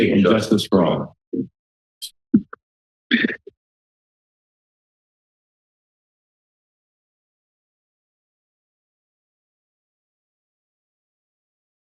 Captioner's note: silence